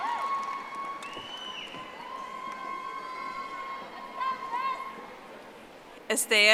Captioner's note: audience applauding